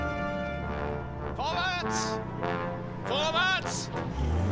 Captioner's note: speaking german